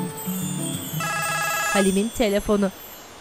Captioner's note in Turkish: Telefon zili sesi